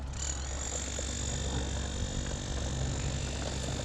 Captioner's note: power tool noise